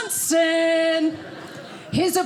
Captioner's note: audience laughing